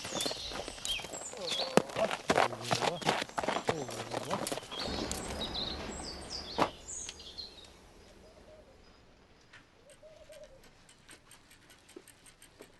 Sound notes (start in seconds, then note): 0.0 hoofbeat; 5.1 birds singing